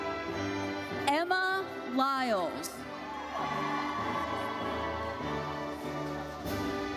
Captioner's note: audience cheers